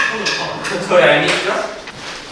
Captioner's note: haha